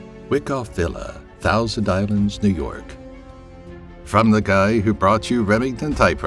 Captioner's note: movie trailer voice